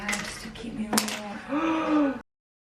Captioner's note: gasp